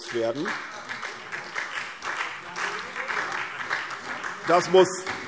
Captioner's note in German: Beifall SPD und vereinzelt CDU